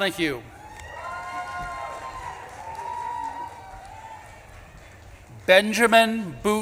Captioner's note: audience claps and cheers